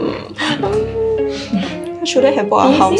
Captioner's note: whines; whines somemore